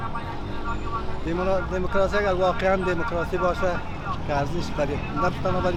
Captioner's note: speaking in a foreign language